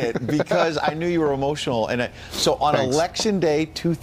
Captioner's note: laughter